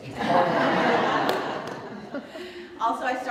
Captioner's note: audience Laughter